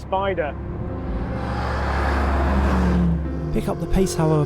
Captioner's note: car engine revving